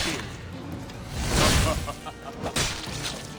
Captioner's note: laughs